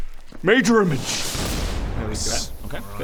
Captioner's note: whoosh!